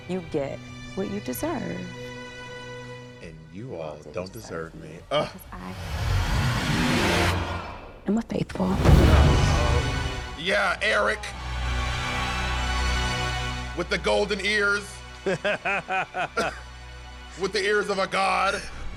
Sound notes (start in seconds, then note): 6.2 suspenseful music; 11.6 dramatic music; 15.2 laughs